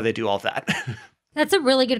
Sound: chuckles

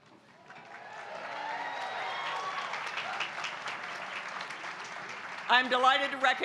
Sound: applause

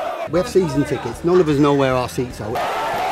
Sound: shouts

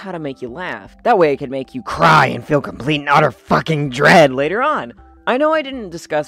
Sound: back to normal speaking voice

